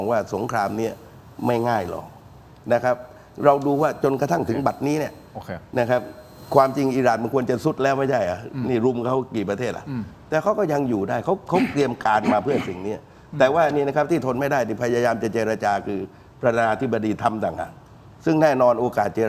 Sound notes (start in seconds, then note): 12.1 clears throat